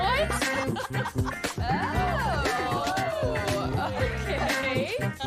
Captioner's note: staff laughing